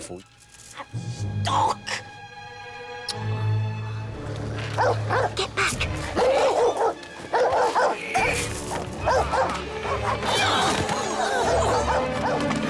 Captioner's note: dog bark